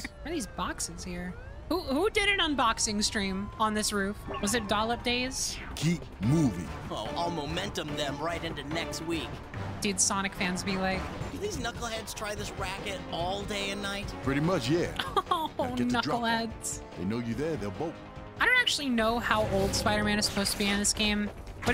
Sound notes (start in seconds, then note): 14.9 fake laughing